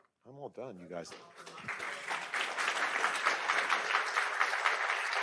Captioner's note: attendees clapping